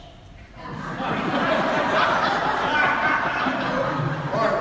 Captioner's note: audience laughs